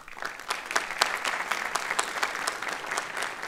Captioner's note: applause